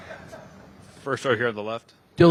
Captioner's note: audience laughing